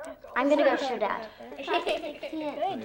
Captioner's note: giggling